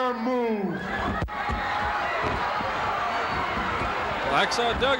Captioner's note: crowd cheers